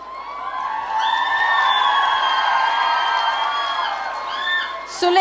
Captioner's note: audience cheering